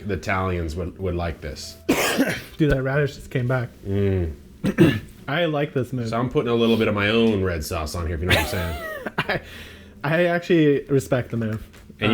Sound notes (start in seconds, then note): 1.8 coughs; 8.3 laughs